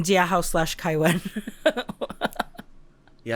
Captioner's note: chuckles